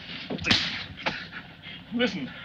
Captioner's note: slap cracks